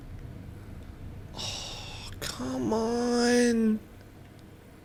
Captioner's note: sighs dramatically